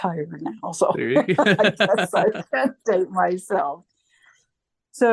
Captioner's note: laughter